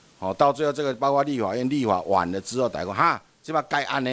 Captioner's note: minnan dialect